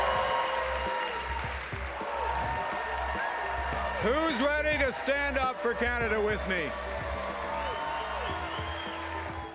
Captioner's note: cheering